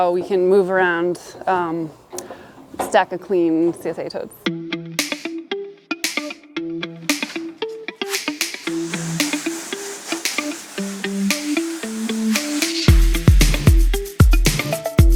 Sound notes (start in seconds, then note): 4.2 upbeat rhythmic music; 8.0 water spraying